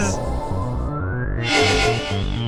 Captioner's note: teleport sound